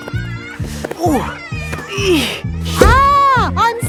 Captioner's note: grunting